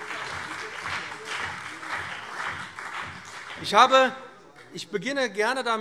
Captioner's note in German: Beifall